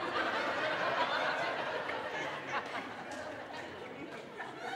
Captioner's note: audience laughing